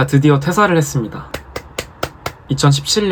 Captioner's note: claps